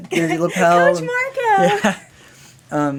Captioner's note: laughter